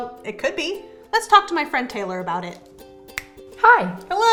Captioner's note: snaps